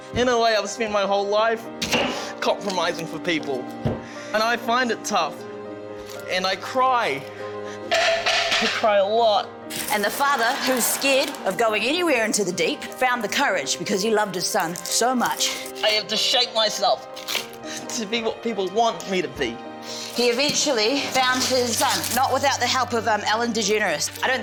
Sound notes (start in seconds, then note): 7.2 cutting board clatters